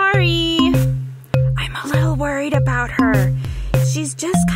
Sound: begins to whisper

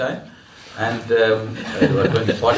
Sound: laughter

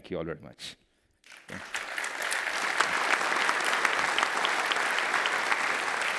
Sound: applause

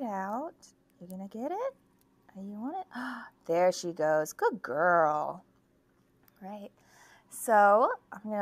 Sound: gasp

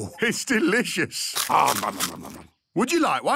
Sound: crunching

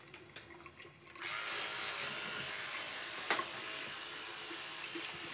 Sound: electric toothbrush buzzes

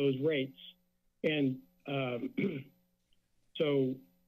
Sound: clears throat

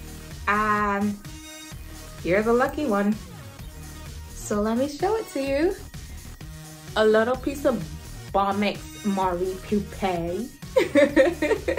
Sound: laughs

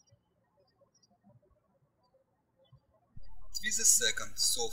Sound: birds chirping

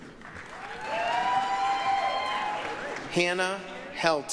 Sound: applause, cheering

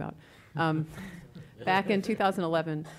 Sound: laughing

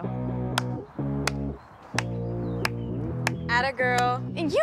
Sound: Gemma claps

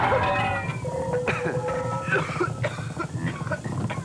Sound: brakes squealing; coughing

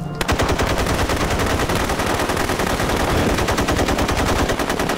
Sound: gunshots

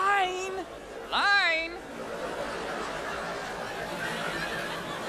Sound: audience laughs

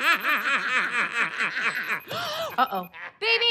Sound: both laugh; video call rings; gasps

